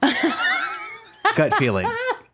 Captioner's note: laughing